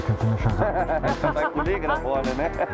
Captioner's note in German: lacht